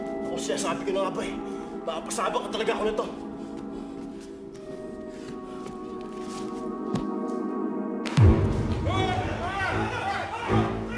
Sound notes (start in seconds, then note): 3.2 Bruce panting